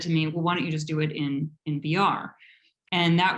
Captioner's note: none